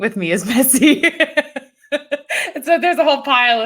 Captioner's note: laughing